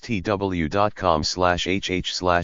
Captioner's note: french and English